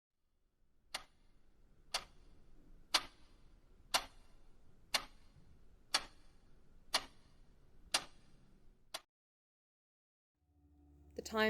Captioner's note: clock ticking